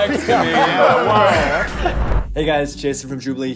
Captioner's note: group laughs